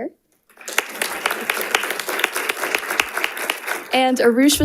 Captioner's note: audience applauding